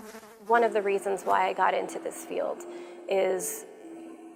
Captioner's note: flies buzzing